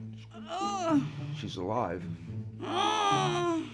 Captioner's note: patient babbles in foreign language